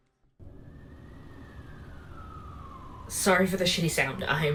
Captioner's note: distant sirens